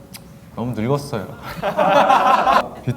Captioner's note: laughing